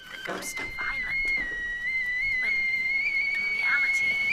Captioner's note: teakettle whistling